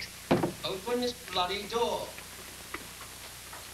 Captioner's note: john bangs on door